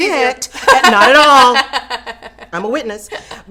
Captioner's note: laughing